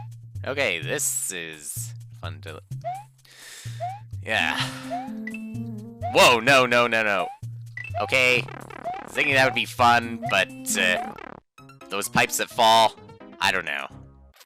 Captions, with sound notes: Okay, this is...fun to... (*inhaling*) ...yeah. Whoa! No, no, no, no. Okay. I was thinking that would be fun, but... ...those pipes that fall? I don't know.